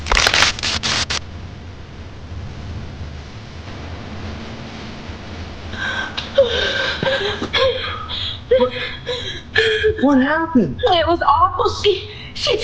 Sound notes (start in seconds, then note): 0.2 electricity crackling; 5.7 sighing; 5.8 gasping